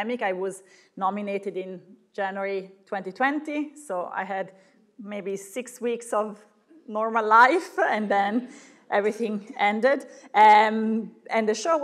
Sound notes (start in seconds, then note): none